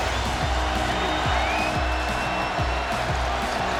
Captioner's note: crowd cheering